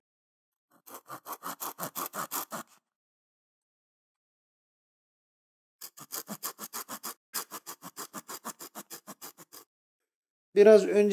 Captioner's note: crackling noises the saw makes while cutting the scabbard